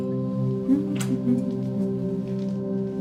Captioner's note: paper being crumpled